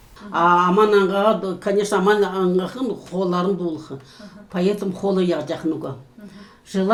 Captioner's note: speaking Kalmyk